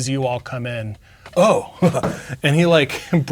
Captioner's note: chuckles